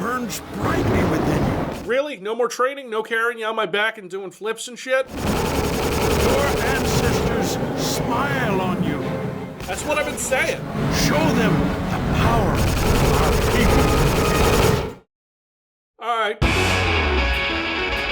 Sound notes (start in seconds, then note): 15.0 sound is off; 16.4 metal music